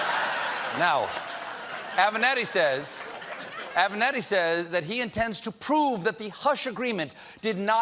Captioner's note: laughter